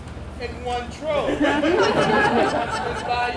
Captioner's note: audience laughs